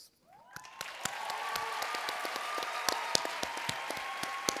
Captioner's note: audience cheering